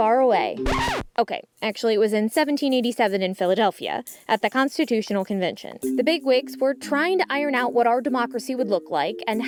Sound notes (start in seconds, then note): 0.6 record scratches